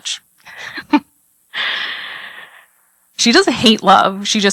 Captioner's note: laugh